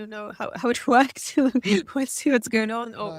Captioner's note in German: lacht